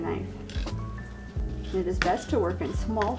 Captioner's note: knife scrapes